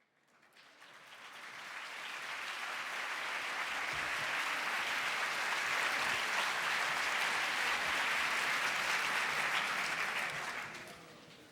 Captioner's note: audience applause